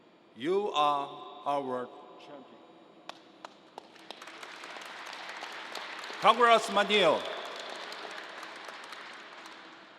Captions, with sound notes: you are our champion. (crowd applause) Congressman Neal.